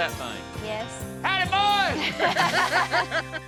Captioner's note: laughter